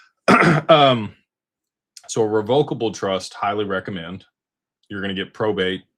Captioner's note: clears throat